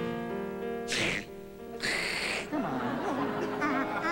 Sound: blows nose

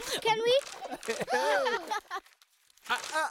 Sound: gasping

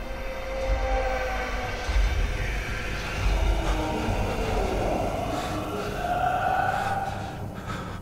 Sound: loud monster noises

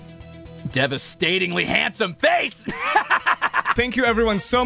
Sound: laughs

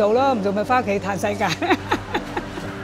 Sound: laughter

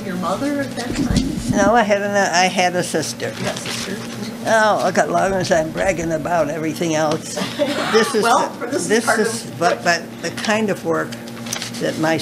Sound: laughter

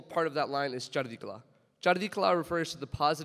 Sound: speaks in foreign language

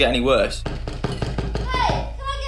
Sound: banging

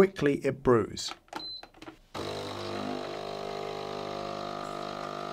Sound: machine whirring

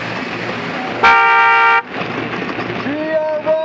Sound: bike honk

